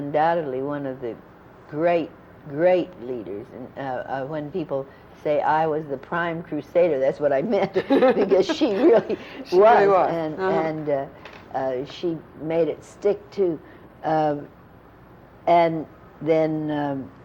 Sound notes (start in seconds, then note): 7.7 laughter